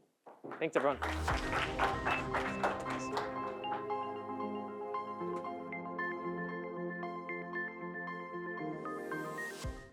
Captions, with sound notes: Thanks everyone. (audience applauding) (bright music)